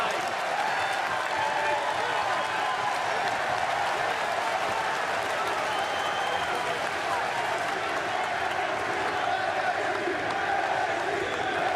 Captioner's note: crowd cheering